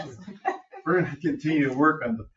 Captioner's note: people chuckle